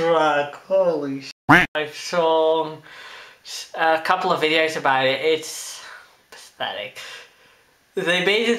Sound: quack

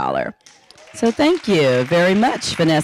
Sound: audience applauding

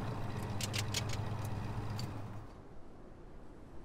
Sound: engine shuts off

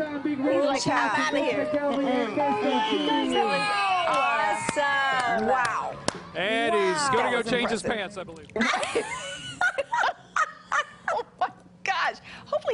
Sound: laughter

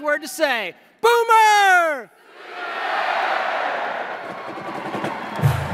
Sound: Crowd replies - SOONER!

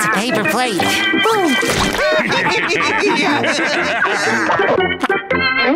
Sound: laughing

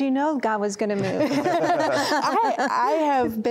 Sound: laughter

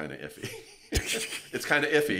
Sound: laughs quietly

